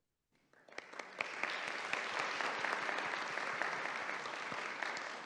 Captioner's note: audience applauding